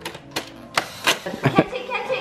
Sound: toaster clicks

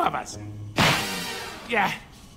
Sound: Perry slaps him

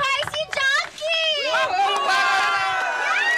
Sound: crowd; all cheering

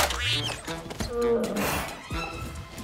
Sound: sighs

